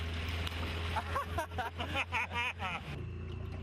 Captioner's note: laughter